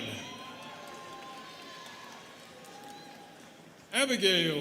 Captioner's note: students clapping